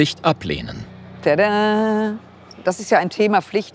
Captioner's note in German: im Singsang